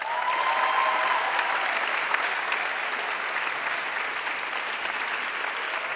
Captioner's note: audience cheering and applauding